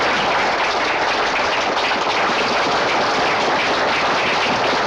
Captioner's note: applause continues